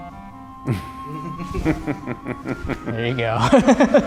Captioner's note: laughs